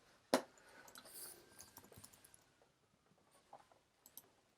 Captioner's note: mouse clicking